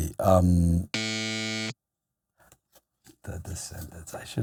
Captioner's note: loud buzzer